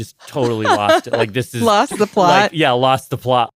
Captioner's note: laughs